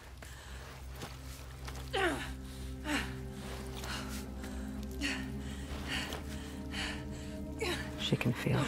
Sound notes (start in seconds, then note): 1.8 senua grunting and panting